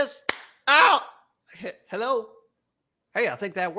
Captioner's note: whack